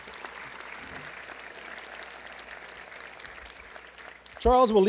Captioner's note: applause